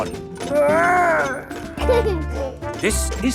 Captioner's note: giggles